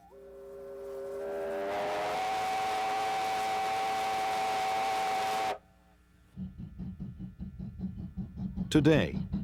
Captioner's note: train Whistling